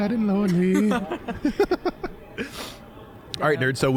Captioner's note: both laughing